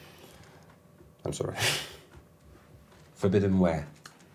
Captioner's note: laughs